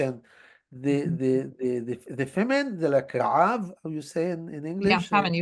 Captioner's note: hebrew